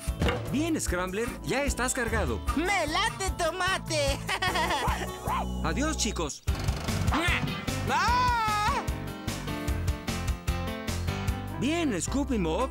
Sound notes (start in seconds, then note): 5.2 barking